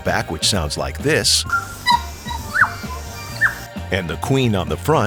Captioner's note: bird call sound